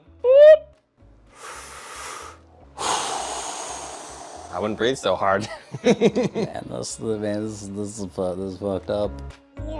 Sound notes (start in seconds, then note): 1.3 inhales sharply; 2.7 exhales heavily